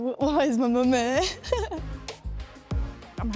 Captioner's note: laughs